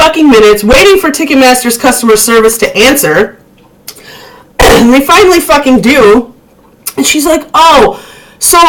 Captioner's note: cough